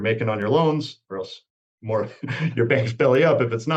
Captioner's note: laughs